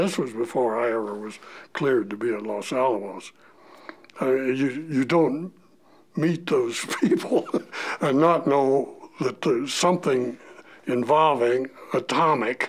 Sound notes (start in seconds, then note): 7.2 chuckle